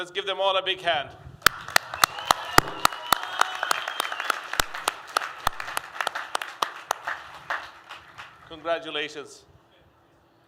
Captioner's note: applause